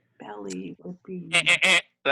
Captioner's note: thinking aloud; buzzer sounds